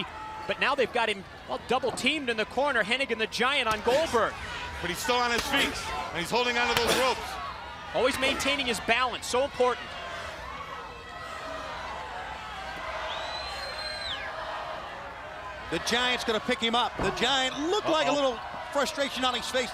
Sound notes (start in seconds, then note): 15.0 crowd chatter